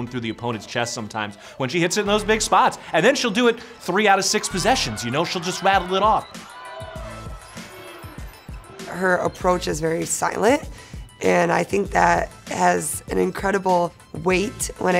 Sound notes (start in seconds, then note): 6.6 crowd cheering; 6.6 upbeat music